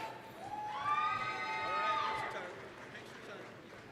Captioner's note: applause, cheering